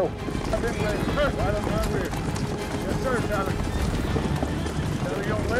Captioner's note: overlapping chatter